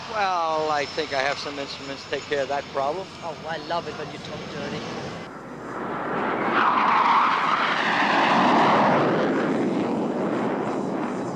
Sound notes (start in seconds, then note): 5.5 jet roaring